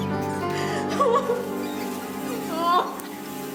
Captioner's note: sobbing